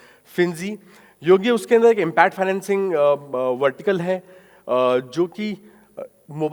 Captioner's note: speaking in foreign language